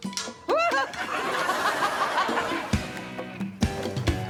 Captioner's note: laughing; yelping